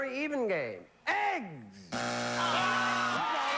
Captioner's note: buzzer